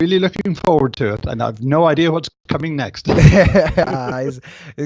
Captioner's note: laughs